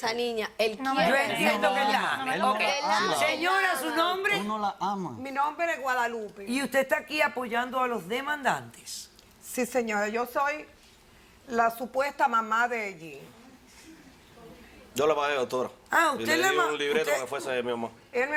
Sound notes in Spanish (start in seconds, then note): 3.6 Hablan al unísono